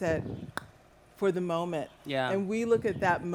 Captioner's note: click